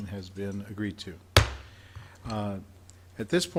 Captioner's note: gavel smacking